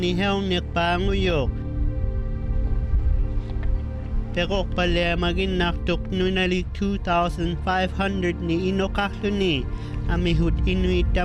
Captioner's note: speaking inuktitut